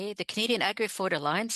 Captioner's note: speaking French